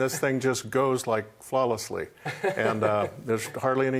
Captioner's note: laughs